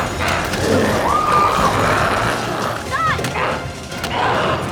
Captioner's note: group screaming